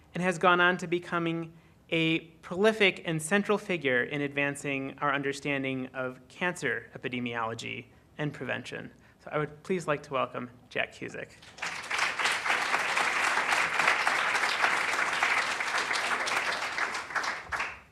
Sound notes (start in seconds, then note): 11.4 applause